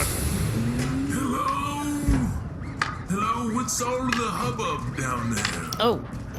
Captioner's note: sounding very old, walking with a cane; morgue door slides open again